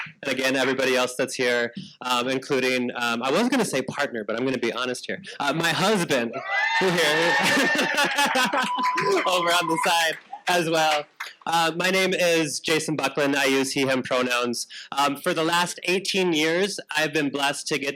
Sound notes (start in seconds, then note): 6.4 audience applauding; 6.8 laughs